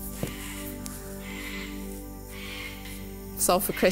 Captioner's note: bird shrieking